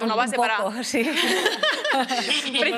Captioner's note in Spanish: Risas